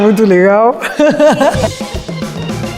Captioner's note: laugh